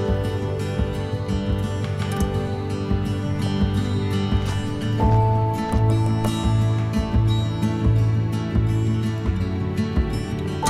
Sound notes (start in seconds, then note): 5.4 woodpecker tapping tree